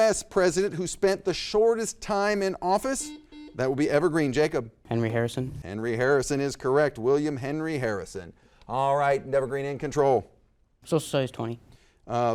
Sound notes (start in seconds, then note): 2.9 buzzer dings